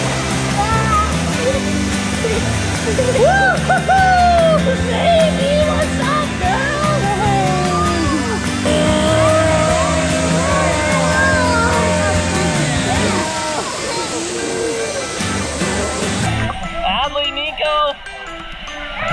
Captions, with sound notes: (upbeat music continues) Woo-hoo! Navy, what's up girl? (dad groaning) Adley, Nico.